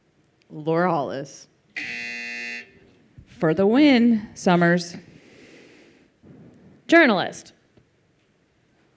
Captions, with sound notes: - Laura Hollis. (buzzer) - For the win, Summers. - Journalist.